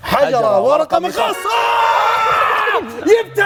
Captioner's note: shouts